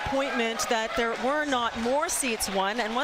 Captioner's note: crowd din